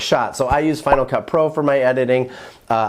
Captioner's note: logo pops